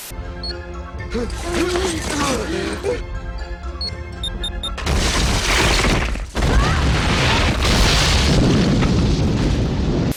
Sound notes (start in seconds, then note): 0.0 intense music; 4.6 multiple explosions